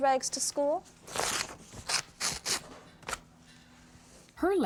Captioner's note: ripping paper heart